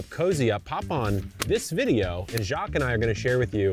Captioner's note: catalog thumping; hands clapping